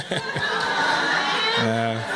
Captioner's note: chuckles; laughter